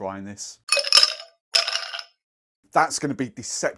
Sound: ice shakes

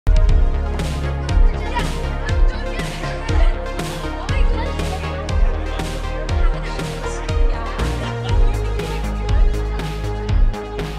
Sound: upbeat synth music playing; indistinct chatter

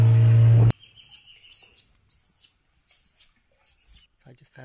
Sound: sound of motor; sound of birds and monkeys

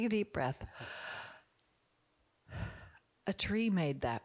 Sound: Barbara breathes heavily

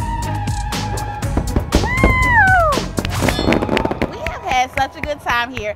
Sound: fireworks pop

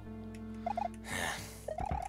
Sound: sigh

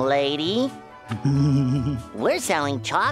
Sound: giggling

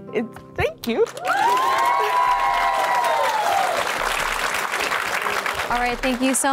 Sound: women cheering and clapping

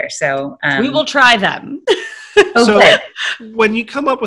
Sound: laughing

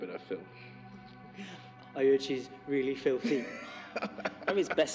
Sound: laughing

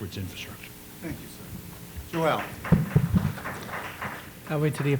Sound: applause

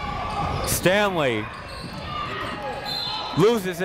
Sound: whistle blows

